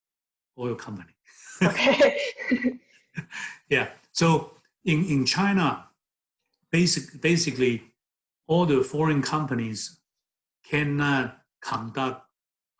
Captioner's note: both laugh